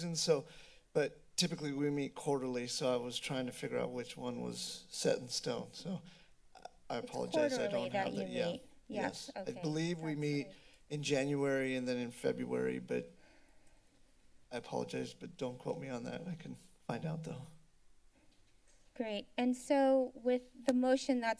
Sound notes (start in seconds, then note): 17.6 silence